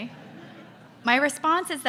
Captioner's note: audience laughs